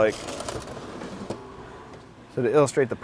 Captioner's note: scraping